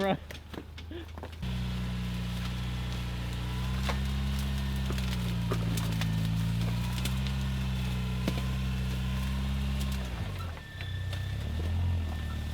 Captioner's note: engine revving